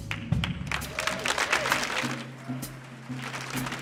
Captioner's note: audience applauding